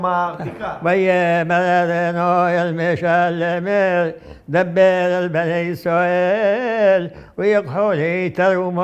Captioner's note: reciting